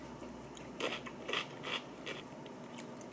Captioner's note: Crunch